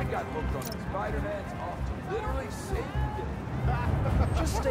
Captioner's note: crowd chattering